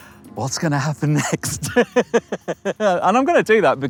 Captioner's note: laughs